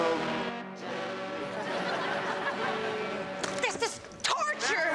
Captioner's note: audience laughs